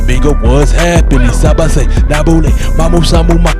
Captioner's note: speaking "Creole "Haitian; speaking Cameroonian